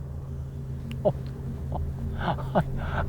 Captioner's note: Mr. Boll laughing